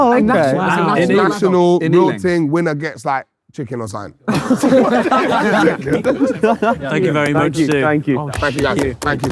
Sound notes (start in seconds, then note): 4.2 group laughing; 8.2 crowd clapping